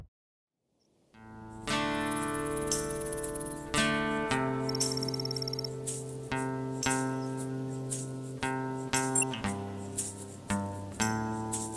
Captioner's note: computer display sounds